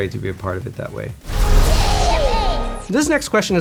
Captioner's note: aircraft buzzing